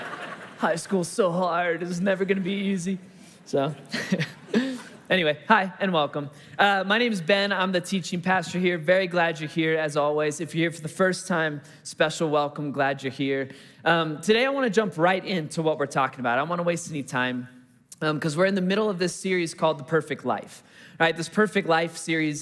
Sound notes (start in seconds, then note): 0.0 congregation laughing; 3.7 chuckles